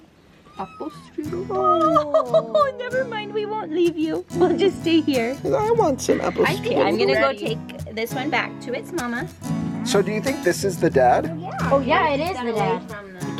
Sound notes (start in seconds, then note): 0.4 kitten meows; 12.8 mellow music